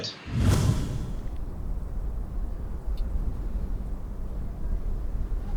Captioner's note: light wind blowing